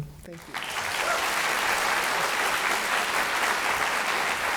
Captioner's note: audience cheering